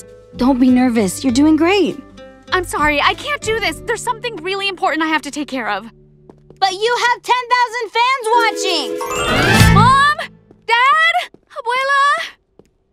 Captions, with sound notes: - Anyways, don't be nervous, you're doing great. - I'm sorry, I can't do this, there's something really important I have to take care of (footsteps) - But you have ten thousand fans watching! - Mom, dad? abuela?